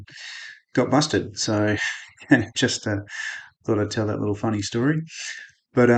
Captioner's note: laughing